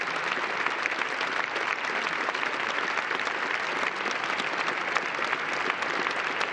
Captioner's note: applause